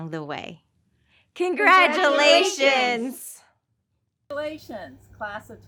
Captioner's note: crowd